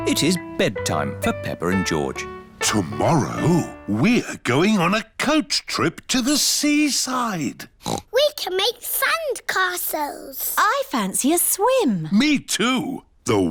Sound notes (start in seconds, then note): 7.8 oinks